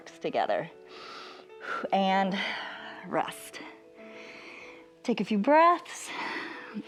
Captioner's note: inhales and exhales